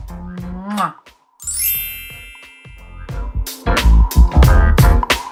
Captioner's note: chimes ringing; rhythmic music